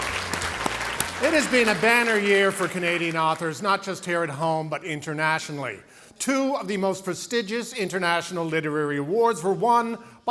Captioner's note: applause